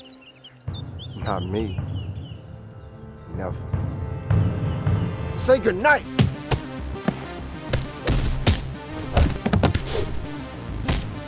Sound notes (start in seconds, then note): 7.6 fists whack; 7.7 kicks thuds; 8.0 intense music; 9.2 skateboards thwacking